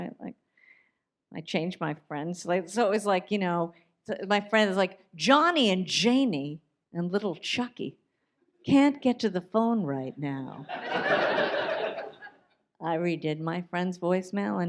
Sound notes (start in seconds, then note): 10.6 audience laughs